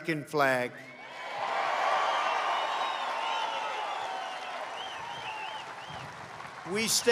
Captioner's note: applause